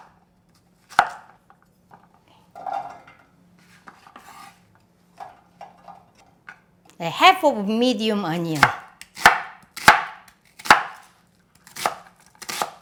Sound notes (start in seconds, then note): 9.7 knife chopping